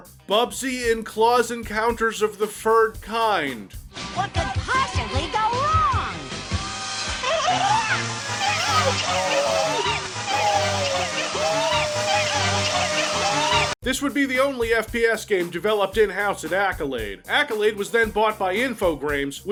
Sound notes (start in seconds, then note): 8.2 gurgled screaming; 8.2 whirling noise